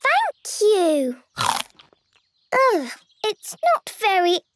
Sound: crunch!

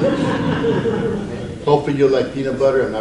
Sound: audience laughs

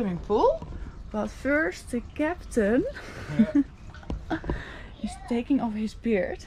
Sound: laughs

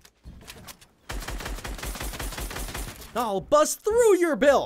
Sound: gun banging

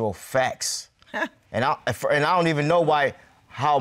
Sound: scoffs

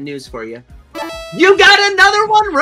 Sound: cheerful beeping

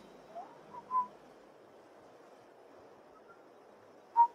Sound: whistles

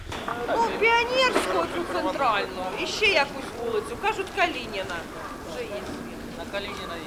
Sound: crowd

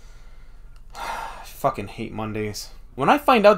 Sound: sigh

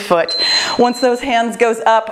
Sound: timer beeps

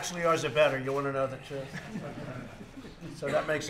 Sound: laughter

